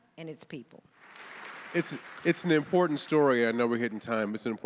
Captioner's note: audience applauding